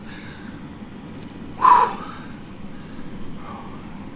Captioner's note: blowing